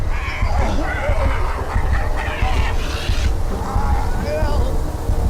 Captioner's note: Oliver shouts